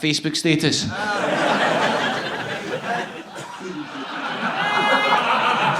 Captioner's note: audience laughing